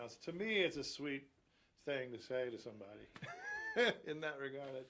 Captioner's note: laughs loudly